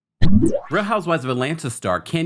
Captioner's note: intro whooshing